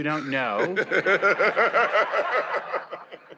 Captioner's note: laughs